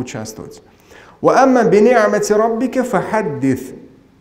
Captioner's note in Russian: Говорит на арабском